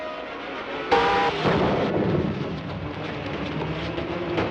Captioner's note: booming